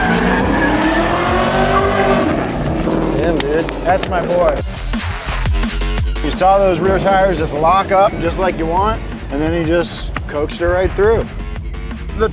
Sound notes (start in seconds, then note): 0.8 car engine revving; 0.8 tires screeching; 5.3 hands clapping